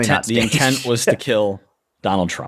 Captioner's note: chuckle